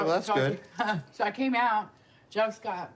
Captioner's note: laughs